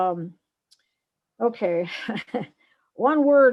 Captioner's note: laughs